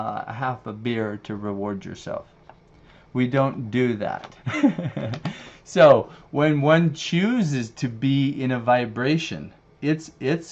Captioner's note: laughs